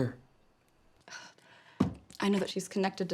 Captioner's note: sighs